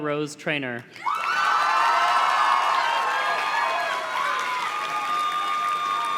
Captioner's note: audience cheers and claps